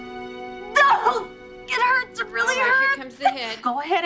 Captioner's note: groans